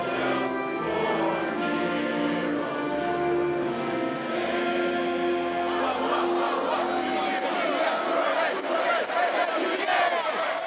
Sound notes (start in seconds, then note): 5.7 cheering